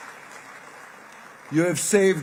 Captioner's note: applause